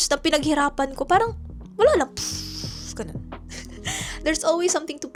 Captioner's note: poof